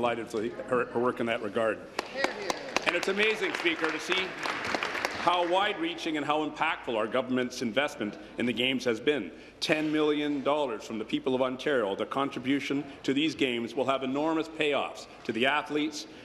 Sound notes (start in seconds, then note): 6.7 applause